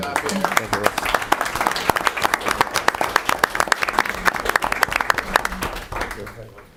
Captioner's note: applause